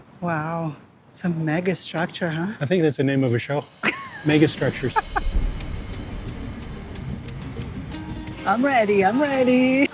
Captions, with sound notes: - Wow, it's a megastructure, huh? - I think that's the name of a show. Megastructures. - [laughing] (upbeat music) - I'm ready, I'm ready.